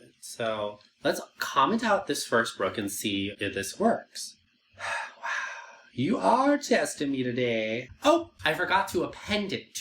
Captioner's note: sigh